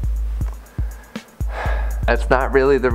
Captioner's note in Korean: 한숨